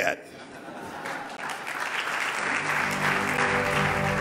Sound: loud clapping

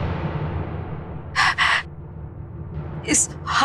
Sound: breath trembling

